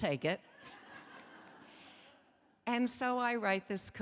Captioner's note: audience laughing